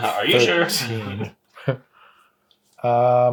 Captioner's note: laughs